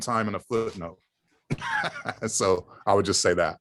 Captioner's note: laugh